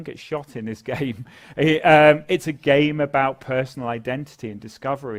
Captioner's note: laugh